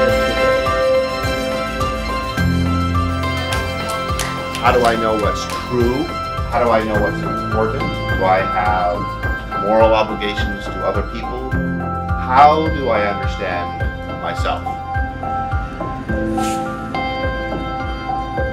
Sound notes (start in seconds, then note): 3.3 hands clapping; 15.8 upbeat music